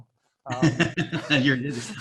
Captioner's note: laughing